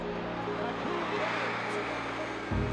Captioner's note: crowd cheering